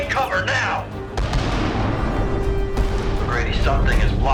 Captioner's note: explosion booming